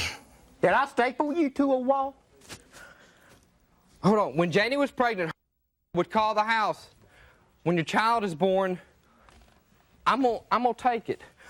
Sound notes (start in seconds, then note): 6.1 sound blanked